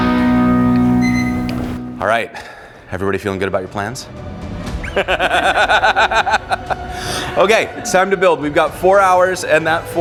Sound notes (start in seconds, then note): 4.9 laughing